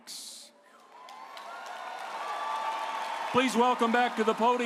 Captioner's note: audience cheering